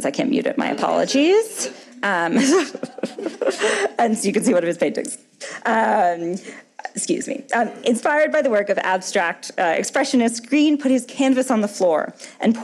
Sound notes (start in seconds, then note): 2.3 laughing